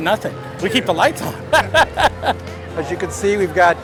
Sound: laughs

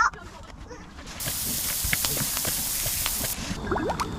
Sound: sizzle sizzle / Sizzle sizzle

